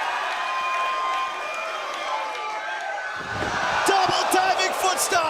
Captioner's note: crowd cheering